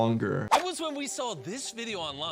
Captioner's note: screen swooshing